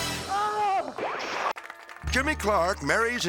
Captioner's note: guests clapping; cheerful country music